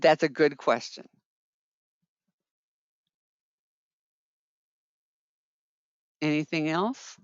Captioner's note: 5 seconds pause